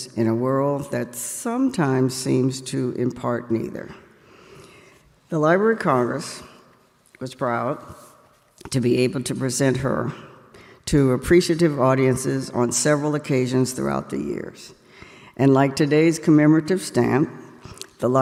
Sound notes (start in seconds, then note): none